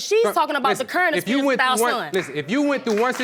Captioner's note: applause